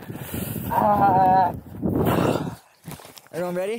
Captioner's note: more cold sounds